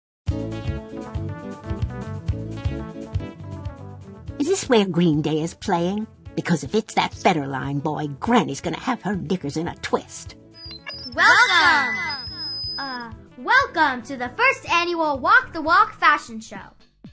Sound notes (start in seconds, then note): 0.3 upbeat music; 10.6 feedback; 12.3 echoes